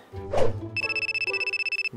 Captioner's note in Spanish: Ring